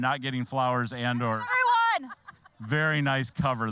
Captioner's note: all laughing; shouting